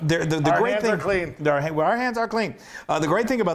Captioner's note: laugh